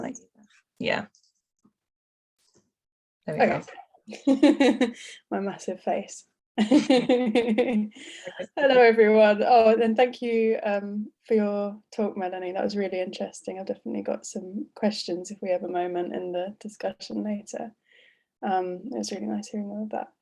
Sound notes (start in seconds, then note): 7.9 laughs